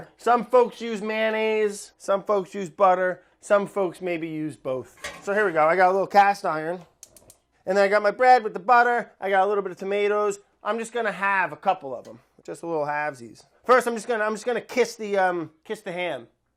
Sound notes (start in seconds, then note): none